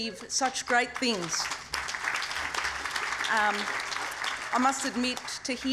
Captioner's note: applause